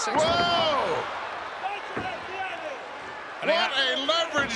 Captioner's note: audience cheers